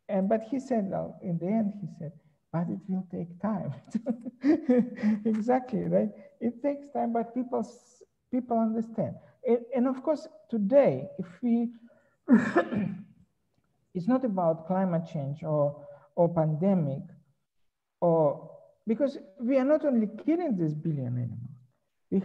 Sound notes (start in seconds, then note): 3.7 chuckles; 12.2 coughs